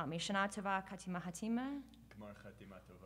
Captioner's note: speaking Hebrew